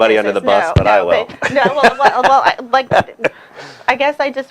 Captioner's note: laughs